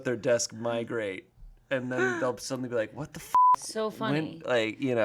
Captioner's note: beep